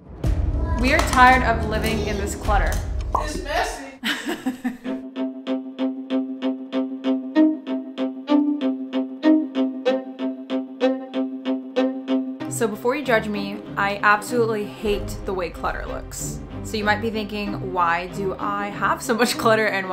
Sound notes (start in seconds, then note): 4.0 chuckling; 5.2 suspenseful music